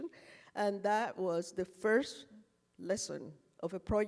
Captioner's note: none